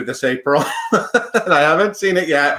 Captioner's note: laughs